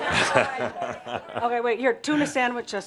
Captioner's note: laughter